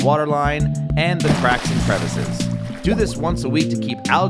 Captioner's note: water splashes